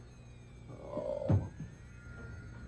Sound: audible head desk

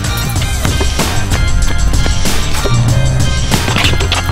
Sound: ball dribbling

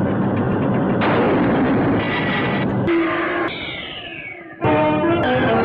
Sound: machine stops

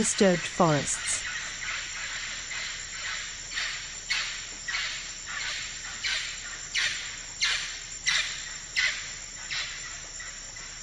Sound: forest sounds

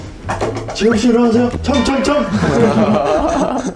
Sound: knock, knock

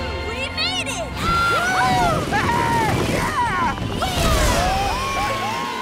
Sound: cheering

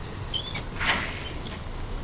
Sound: door opens

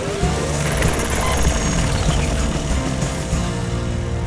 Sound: whirring

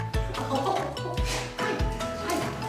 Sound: laughs

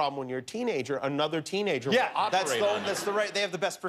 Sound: laughter

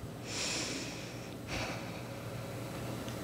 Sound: breathing

